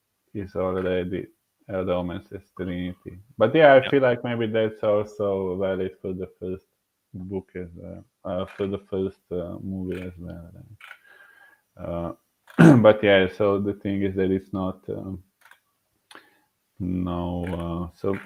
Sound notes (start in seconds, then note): 10.4 clearing throat